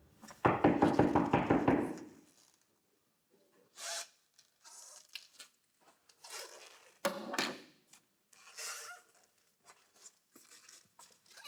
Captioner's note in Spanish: Toques en la puerta